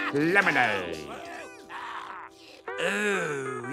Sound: customers groaning

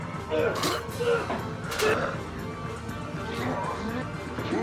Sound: squelching

